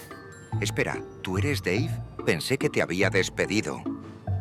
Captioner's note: speaking Spanish